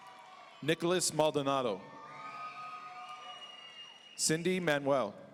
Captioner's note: audience cheering